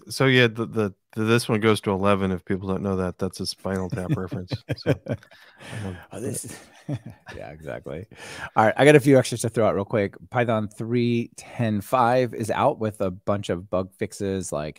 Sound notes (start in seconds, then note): 3.7 laughing